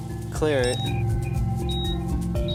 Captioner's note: beeping